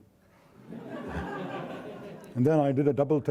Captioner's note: audience laughing